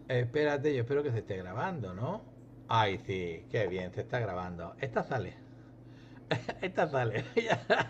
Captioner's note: risas